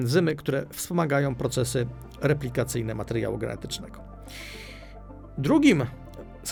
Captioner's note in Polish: wciągnięcie powietrza